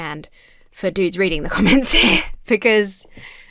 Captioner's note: chuckles